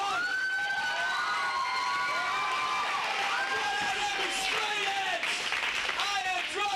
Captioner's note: applause